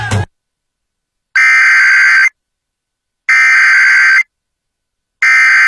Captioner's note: SAME header tones